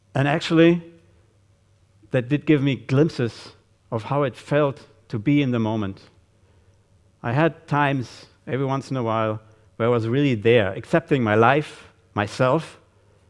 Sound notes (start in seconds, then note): none